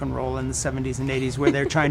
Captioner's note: laughing